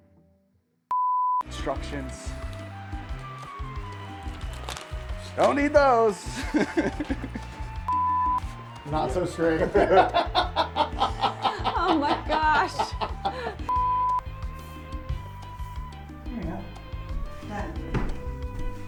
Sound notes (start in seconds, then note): 3.3 cheerful music; 6.2 laughing